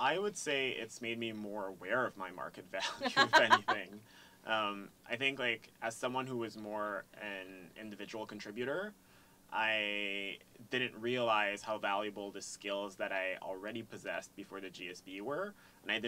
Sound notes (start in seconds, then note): 2.8 laugh